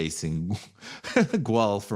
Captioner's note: chuckles